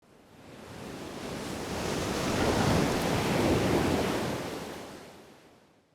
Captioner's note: waves splashing